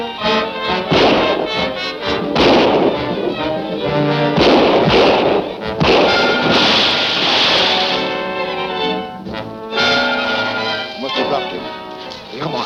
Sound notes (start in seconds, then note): 6.6 splashing